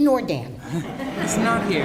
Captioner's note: laughter